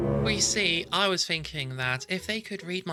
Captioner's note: dramatic noise